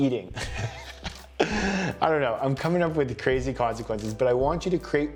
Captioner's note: chuckles